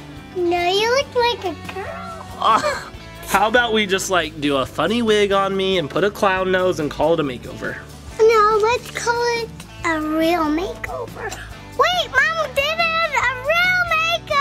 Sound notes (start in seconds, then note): 2.3 chuckles